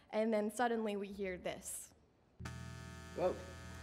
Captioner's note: eclectic buzzing